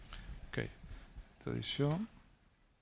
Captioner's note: speaking spanish